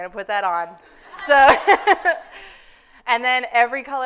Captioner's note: everyone laughing